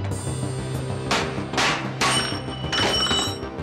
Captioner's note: hammer thudding; metal clinking